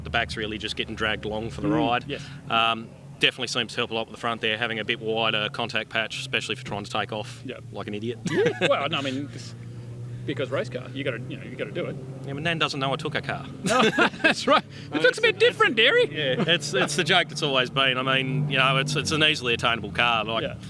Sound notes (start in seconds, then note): 8.2 laughs; 13.6 both laugh